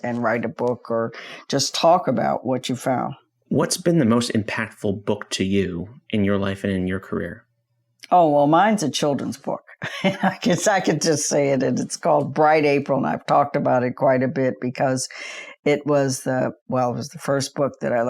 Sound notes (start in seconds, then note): 9.7 chuckles